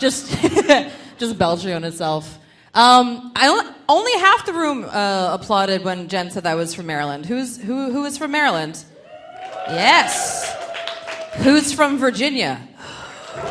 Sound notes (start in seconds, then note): 8.9 audience cheering; 13.3 audience cheering